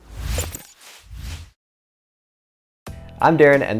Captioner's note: logo whooshes